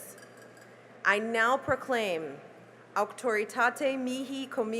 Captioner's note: speaking latin